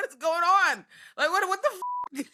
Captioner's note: beep